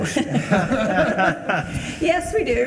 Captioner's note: all laughing